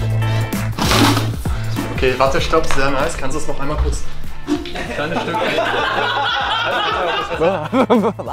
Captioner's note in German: alle lachen